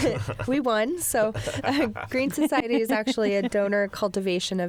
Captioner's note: laughter